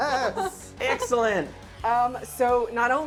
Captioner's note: laughing and cheering